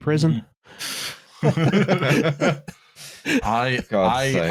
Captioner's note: laughter